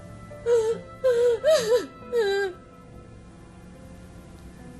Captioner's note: crying